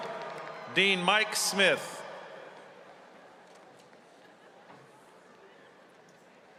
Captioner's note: cheers and applause